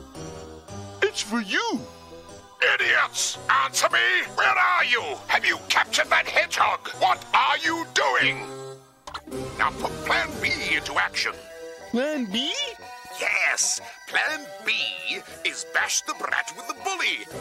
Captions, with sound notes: - It's for you! - Idiots! Answer me! Where are you!? Have you captured that hedgehog? (enunciating) What are you doing!? - (Dr. Robotnik over phone) Now put plan B into action. - "Plan B"? - Yes! Plan B is "bash the brat with a bully!"